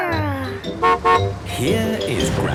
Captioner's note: horn honking